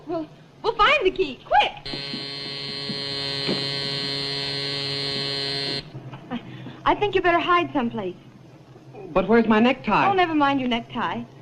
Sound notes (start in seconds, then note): 1.8 door buzzer